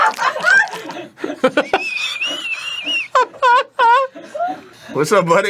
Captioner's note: breaking into very sincere laughter